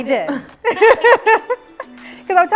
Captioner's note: laughs